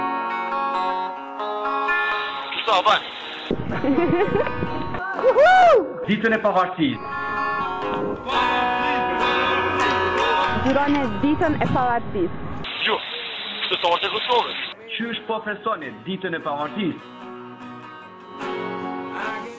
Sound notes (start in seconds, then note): 0.0 guitar music; 3.7 laughter; 17.1 guitar music